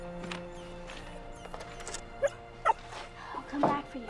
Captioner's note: whimpering; barks